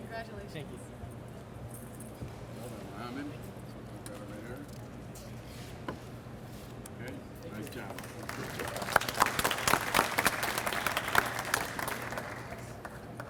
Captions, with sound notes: - Congratulations. - Thank you so much. - Okay, nice job. (audience applauds)